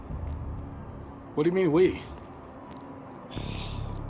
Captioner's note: sighs